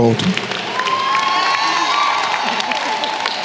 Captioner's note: applause